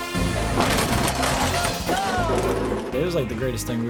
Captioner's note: bumper creaking